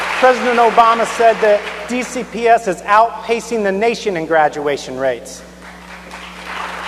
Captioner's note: cheers and applause